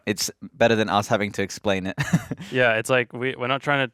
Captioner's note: chuckling